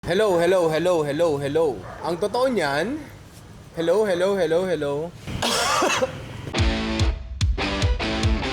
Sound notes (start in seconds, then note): 5.4 coughs; 6.5 intro music